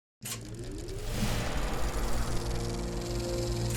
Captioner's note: film reel spooling up